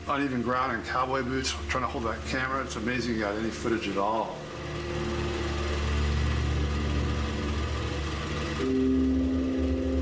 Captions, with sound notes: even ground in cowboy boots, trying to hold that camera, it's amazing you got any footage at all? (engine roaring)